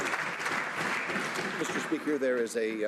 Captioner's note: some Applause